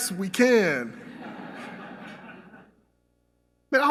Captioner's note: laughter